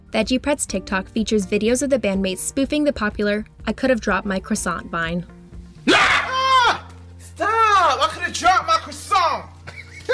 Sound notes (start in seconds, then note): 5.8 man screams; 5.8 man roars loudly